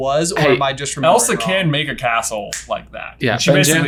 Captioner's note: snaps fingers